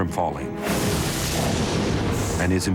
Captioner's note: thunder crashing